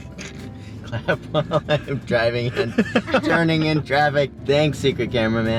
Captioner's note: laughs